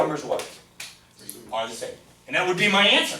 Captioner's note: voiceover